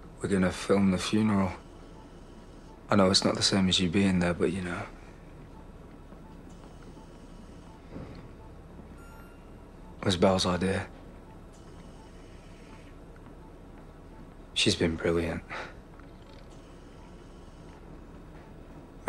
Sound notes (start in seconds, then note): 5.1 machine noises continue; 11.1 machine noises continue; 15.6 machine noises continue